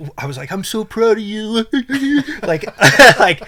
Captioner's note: imitates sobbing